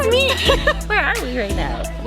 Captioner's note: laughs